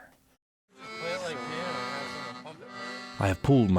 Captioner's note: accordion music; crowd talking